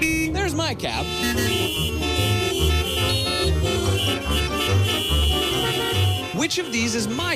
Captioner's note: horns honking